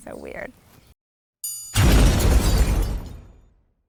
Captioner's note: triangle rings; explosion